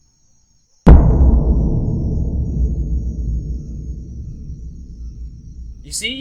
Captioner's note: soft bang